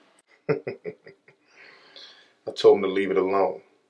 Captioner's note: laughing